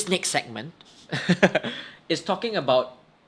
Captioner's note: both chuckle